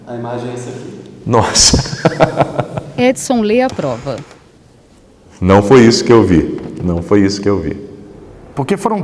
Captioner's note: laughs